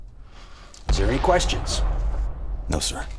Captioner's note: bombs rumbling